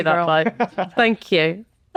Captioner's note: laughing